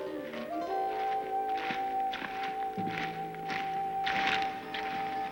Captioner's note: footsteps clomping